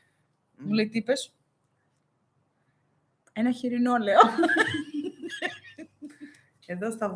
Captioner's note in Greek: γέλια